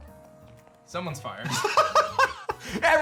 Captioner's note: laughs